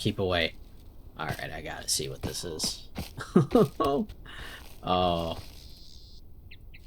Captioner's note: mischievous laughter